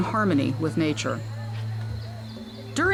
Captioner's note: people chatting